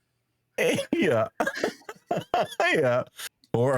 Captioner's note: laughing